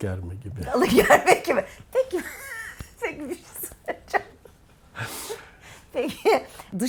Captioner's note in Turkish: kahkaha